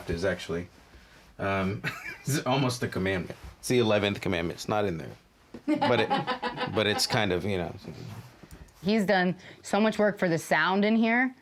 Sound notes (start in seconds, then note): 5.6 laughs